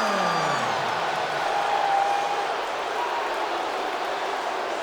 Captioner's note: crowd booing